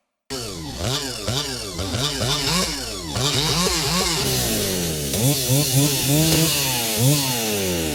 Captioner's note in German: Kettensägegeräusch